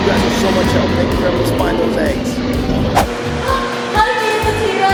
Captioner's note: roars